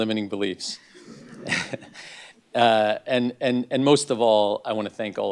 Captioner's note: laugh